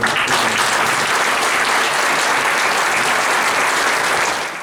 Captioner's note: applause